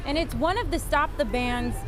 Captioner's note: sirens